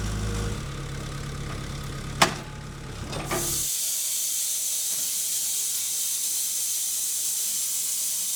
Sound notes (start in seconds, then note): 2.8 skid-steer whirring; 4.1 saw whirring